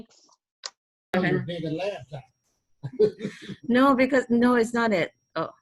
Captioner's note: laughing